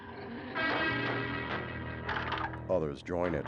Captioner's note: banging on door